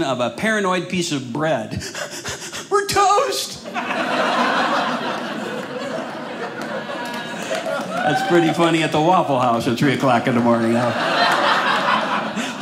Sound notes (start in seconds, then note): 1.7 breathing heavy; 3.6 audience laughing; 10.3 audience laughing